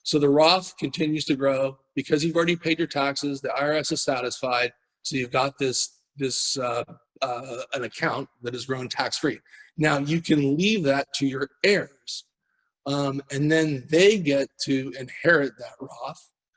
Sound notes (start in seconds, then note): none